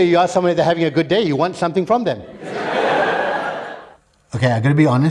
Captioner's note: laughter